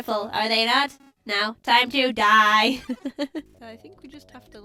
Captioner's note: laughs